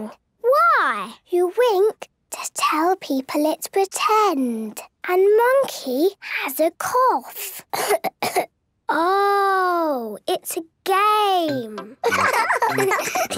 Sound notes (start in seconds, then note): 7.7 pretending to cough; 12.0 laughs